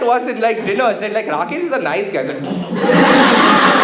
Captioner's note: muffled Laughter